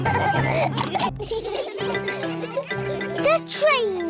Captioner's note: all laugh; laughter